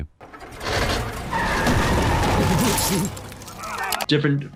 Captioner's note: car starts and squeals